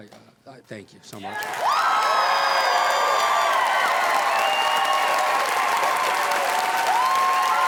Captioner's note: crowd cheering; audience applauding